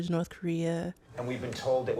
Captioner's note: soundbite of tv show, "conan"